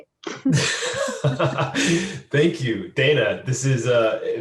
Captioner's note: laughs